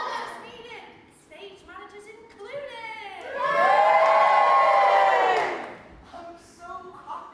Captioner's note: audience cheers